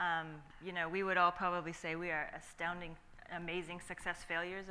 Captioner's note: none